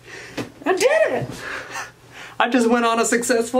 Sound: laughs

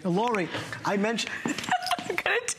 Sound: laughter

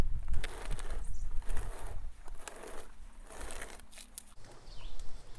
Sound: pot scraping on concrete

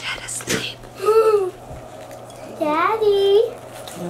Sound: child laughing

